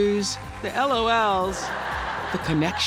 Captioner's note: laughter